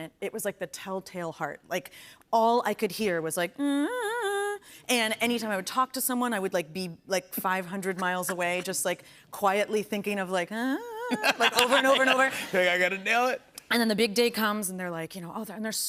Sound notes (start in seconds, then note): 3.9 vocalizes; 10.5 vocalizes